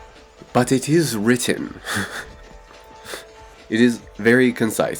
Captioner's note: laughs